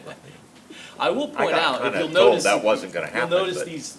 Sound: laughs

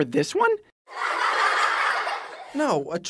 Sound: laughter

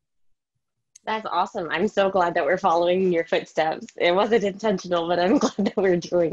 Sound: laughing

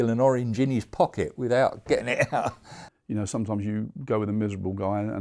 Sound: laughs

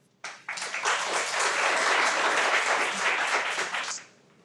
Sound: everyone applauds

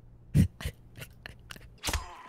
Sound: laugh

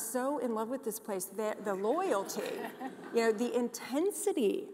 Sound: audience laughs

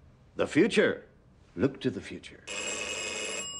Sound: phone ringing

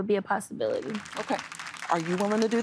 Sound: applause

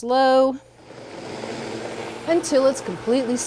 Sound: blender grinding

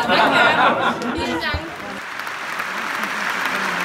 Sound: crowd laughing; woman speaking foreign language; audience applauding

